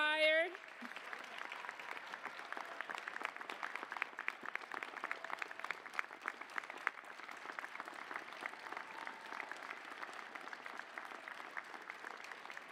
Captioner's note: applause